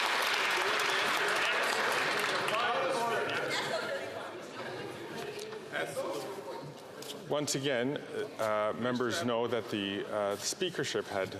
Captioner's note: some Applause